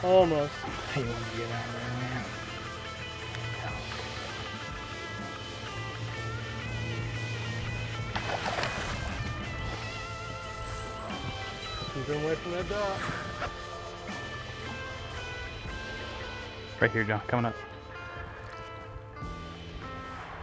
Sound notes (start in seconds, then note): 8.4 water splashes